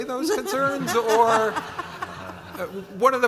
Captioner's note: all laughing